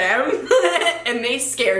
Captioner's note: giggles